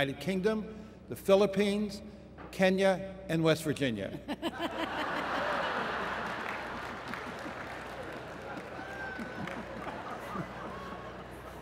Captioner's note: laughter